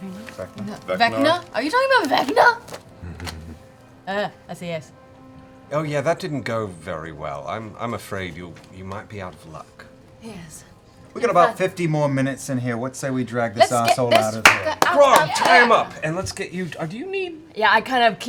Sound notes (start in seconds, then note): 3.0 low chuckle